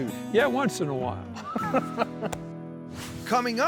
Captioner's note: both laughing